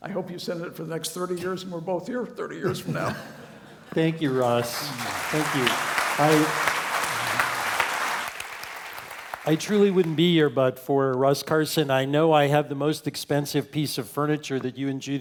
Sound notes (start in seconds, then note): 4.1 applause; 4.2 laugh